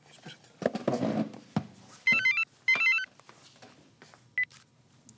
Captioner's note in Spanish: suena el celular